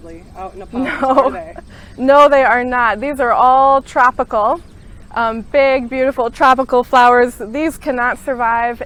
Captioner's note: chuckles